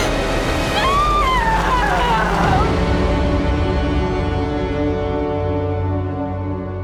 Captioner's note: suspenseful ominous music; screams